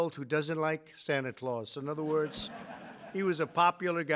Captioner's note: laughter